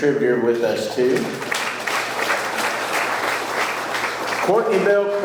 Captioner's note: audience clapping